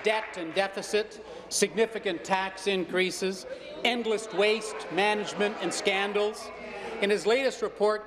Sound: applause

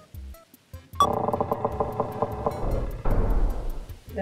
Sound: beep, drawbridge creaks, slams in place

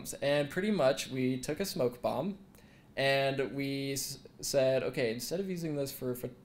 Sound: none

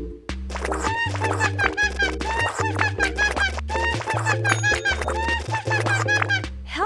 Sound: Lisa laughs

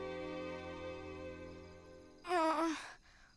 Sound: gasping

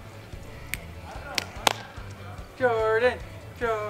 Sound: clapping

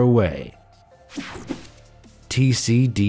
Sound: image whooshing

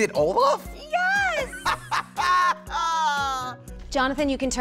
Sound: laughs

